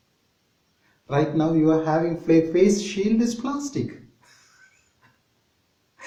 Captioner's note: laughing